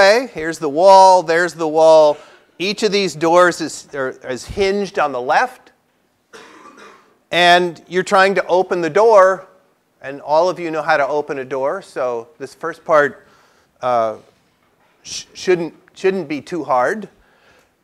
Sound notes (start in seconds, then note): 6.3 cough